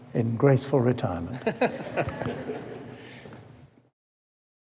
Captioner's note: laughter